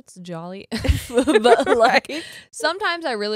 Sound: both laugh

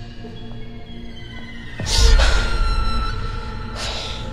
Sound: gasps

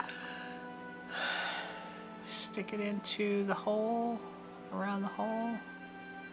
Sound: sigh

